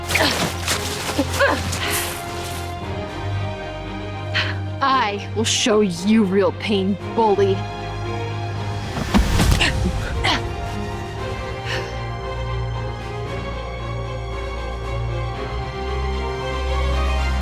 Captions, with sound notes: (Anya grunts) - I will show you real pain, bully. (Anya grunts) (slow orchestral music continues)